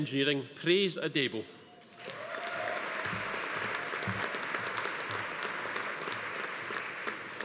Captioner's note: audience applauding; attendee cheering